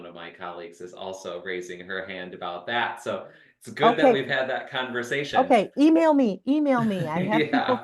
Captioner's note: talking